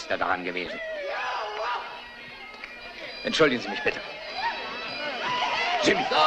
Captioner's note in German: Männer jubeln